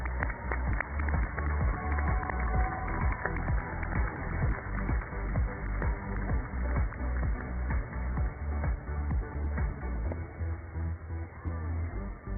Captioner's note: cheers and applause